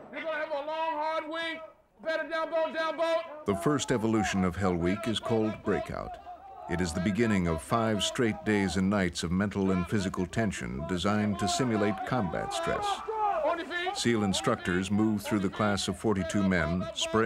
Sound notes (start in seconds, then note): 3.6 voiceover; 6.4 yelling